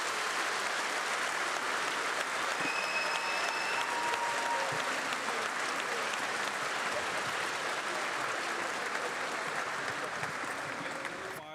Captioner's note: applause